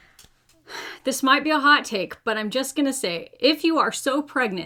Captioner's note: sighs